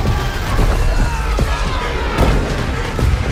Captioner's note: soldiers yelling